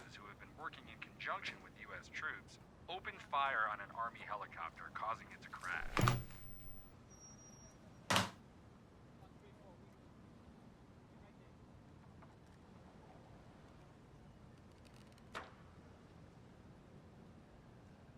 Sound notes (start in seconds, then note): 5.6 TV powers off